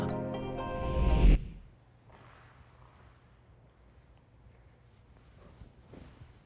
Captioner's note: gentle serene music; transition whooshes